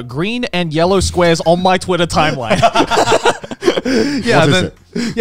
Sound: laughing

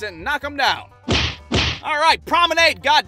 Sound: thwack-thwack!

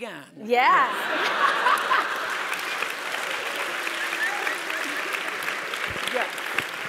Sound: laugh

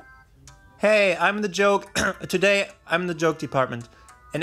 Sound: cough

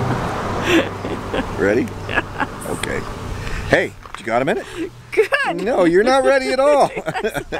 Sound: laughing

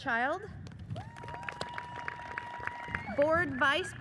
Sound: audience cheers and applauds

